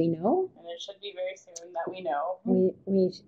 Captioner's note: voiceover